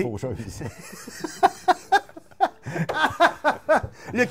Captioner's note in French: rire